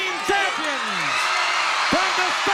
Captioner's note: audience cheering